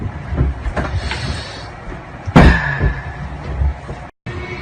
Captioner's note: iNHALEEEE